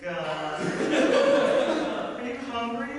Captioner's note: audience laughter